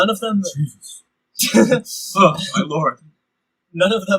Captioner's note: laughter